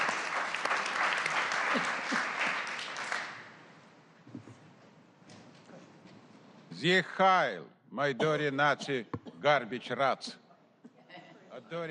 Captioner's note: applause